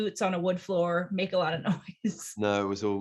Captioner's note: laughs